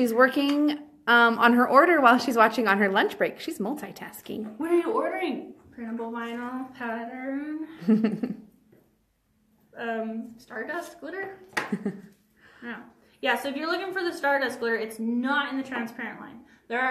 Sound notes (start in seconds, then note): 7.7 laughs; 11.7 chuckles